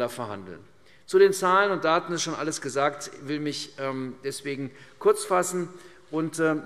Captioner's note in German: none